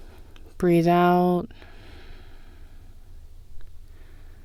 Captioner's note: exhale